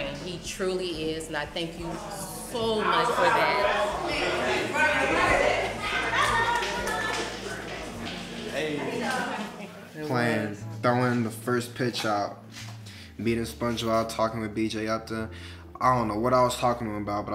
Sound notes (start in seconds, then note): 3.8 people chattering